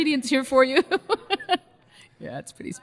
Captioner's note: laughs